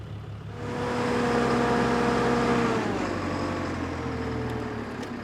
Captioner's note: machine rumbling